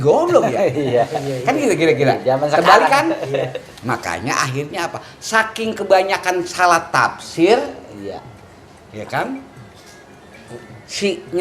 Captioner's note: laughs